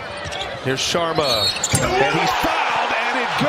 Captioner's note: cheers and applause